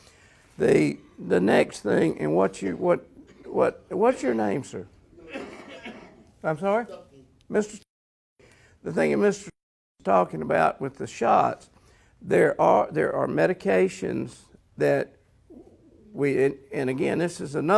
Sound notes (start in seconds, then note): 5.2 audience member coughs